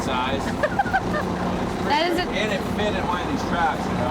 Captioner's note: laughs